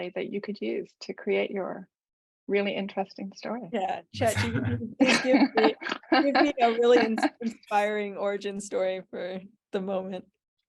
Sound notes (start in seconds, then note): 4.2 laughter